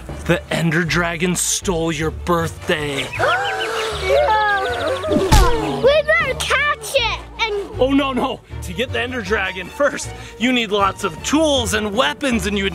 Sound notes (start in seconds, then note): 3.4 gasps